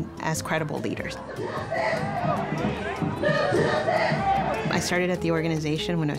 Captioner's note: chanting